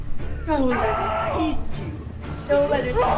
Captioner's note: Bethany screams